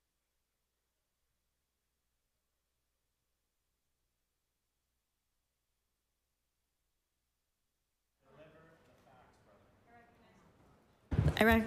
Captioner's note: applause